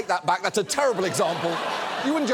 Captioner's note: studio audience laughs